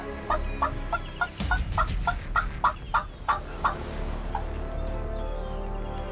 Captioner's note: doing turkey calls; birds chirp